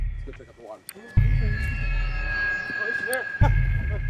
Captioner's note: ominous orchestral music; group chattering